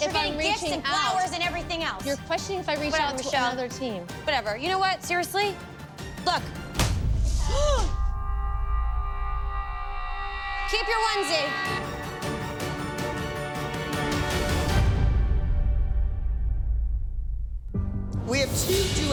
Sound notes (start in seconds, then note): 6.8 thuds; 7.2 gasps